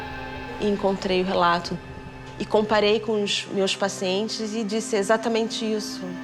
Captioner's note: speaks in foreign language